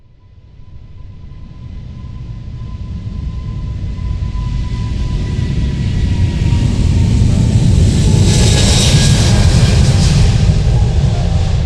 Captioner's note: airplane takeoff sound